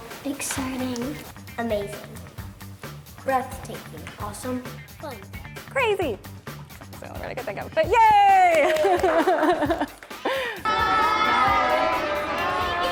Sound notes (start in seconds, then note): 8.6 laughing